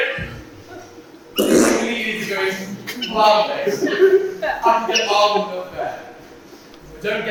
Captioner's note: fart noise